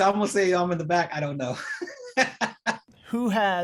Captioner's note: laughter